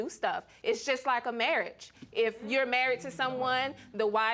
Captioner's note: audience murmuring